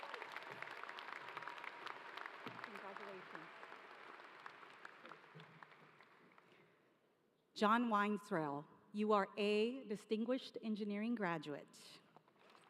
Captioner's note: applause